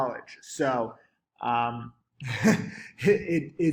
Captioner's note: chuckles